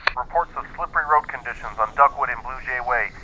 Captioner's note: radio